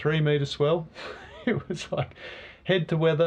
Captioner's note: laughs